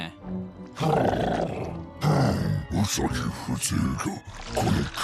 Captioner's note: grumbles